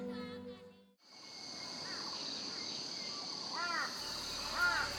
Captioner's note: birds chirping